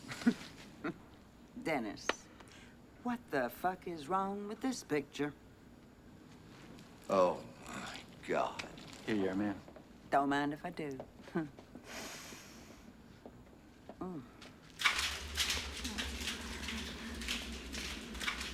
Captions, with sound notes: [ Burke Chuckles ] DENNIS. WHAT THE FUCK IS WRONG WITH THIS PICTURE ? OH, MY GOD. HERE YOU ARE, MA'AM. DON'T MIND IF I DO. [ Sniffs ] OOH.